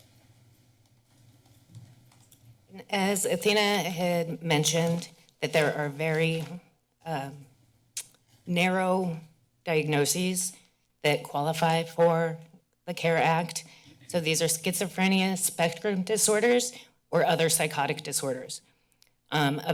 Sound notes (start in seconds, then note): 0.0 silence